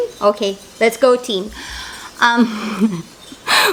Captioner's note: laugh